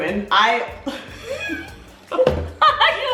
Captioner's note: both laughing